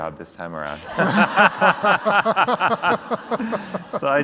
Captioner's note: everyone laughs